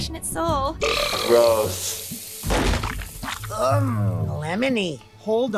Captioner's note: Owen burps